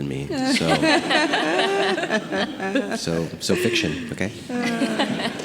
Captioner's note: group laughing